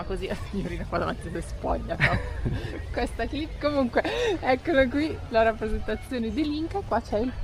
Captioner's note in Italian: risate